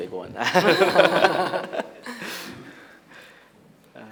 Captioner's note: they laugh